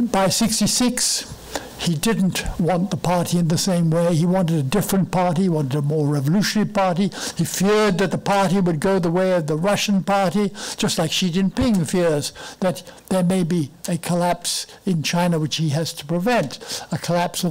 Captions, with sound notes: By 66, he didn't want the party the same way. He wanted a different party, wanted a more revolution party. He feared that the party would go the way of the Russian party, just like (foreign language) fears that there may be a collapse in China which he has to prevent a collapse